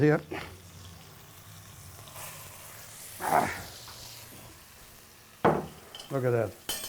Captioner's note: sizzling